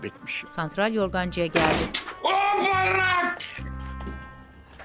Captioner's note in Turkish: Kapı kapanma sesi; Bağırma sesi